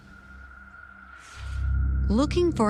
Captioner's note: swoosh